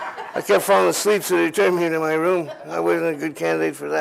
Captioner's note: laughter